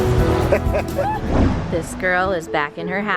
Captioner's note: laughs